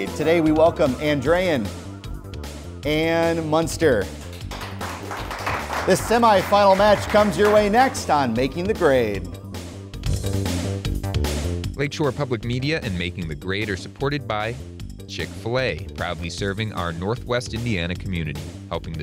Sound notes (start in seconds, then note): 4.2 applause; 9.5 upbeat music